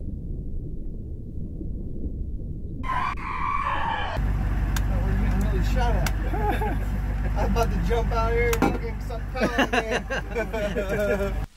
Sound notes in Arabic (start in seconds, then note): 2.8 صراخ مشوه; 6.1 يضحك; 9.2 يضحك